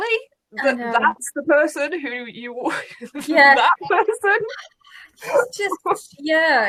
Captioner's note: laughs